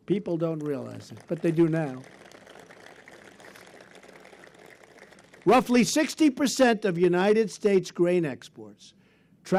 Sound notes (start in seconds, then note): 1.7 applause